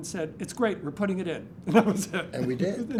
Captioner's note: laughs